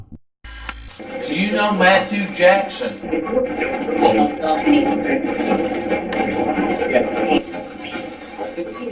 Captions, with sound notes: (static fizzing) - Do you know Matthew Jackson? (static playback transmitting)